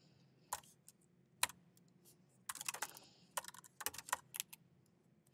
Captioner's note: keyboard clacking